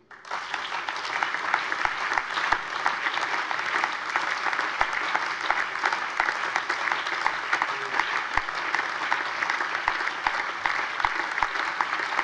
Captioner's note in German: Anhaltender allgemeiner Beifall